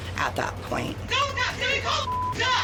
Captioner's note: overlapping shouting, cursing